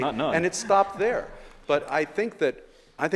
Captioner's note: audience laughing